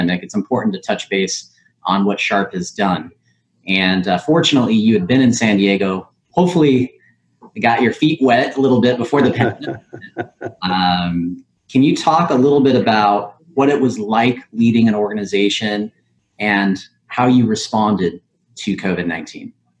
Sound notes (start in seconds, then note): 8.9 audio warps